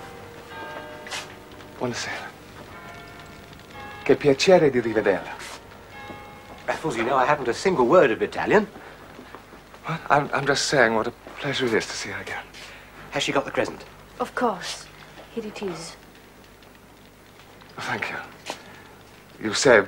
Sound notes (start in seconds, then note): 4.2 speaks Italian